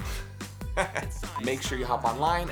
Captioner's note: laughing